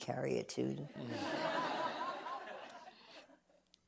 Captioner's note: laughter